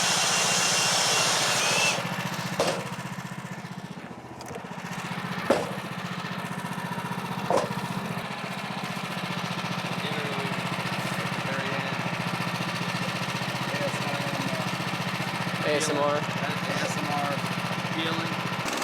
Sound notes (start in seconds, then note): 11.4 motor running